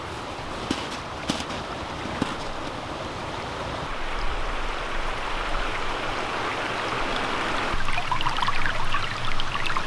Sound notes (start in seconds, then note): 0.0 snow crunching; 5.8 water splashing